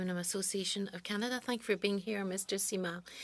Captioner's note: speaking French